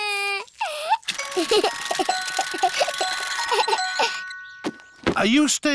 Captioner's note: alexander giggles